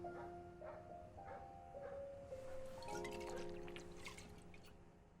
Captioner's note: dog barking in distance